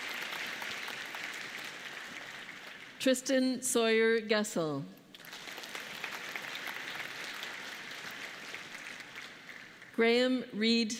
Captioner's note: applause